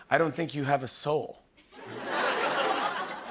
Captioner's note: laughter